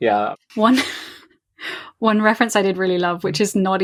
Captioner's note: laughs